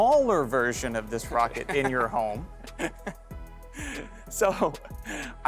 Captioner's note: laughing